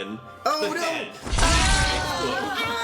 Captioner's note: group screams